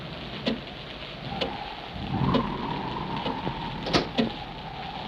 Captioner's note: clock ticks; wind howls; door clicks